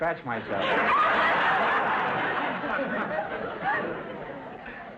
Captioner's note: audience laughter